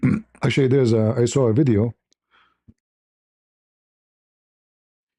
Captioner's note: berdehem